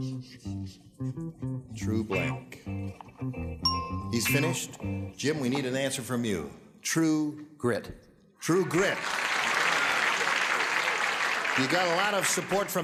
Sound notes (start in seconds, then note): 3.6 bell dings; 8.6 applause